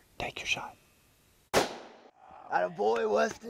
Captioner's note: gunshot